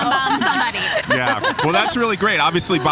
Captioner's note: laughing